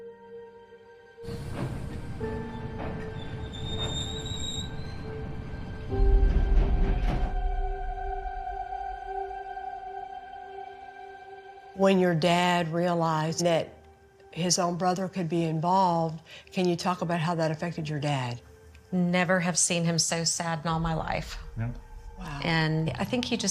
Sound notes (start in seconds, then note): 0.3 somber music playing; 5.3 train screeching